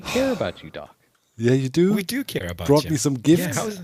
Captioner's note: sighs; chuckles